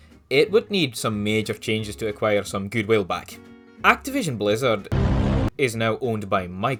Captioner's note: thud